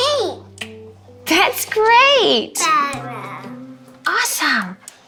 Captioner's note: vocalizes